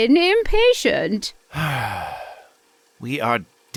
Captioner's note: sighs in papa burger with bacon